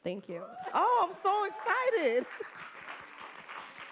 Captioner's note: laughing